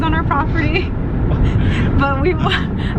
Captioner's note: laughing